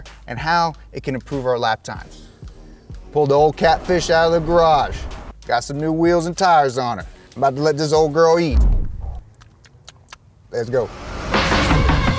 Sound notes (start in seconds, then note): 9.3 mimics eating sounds